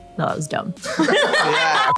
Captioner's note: laughter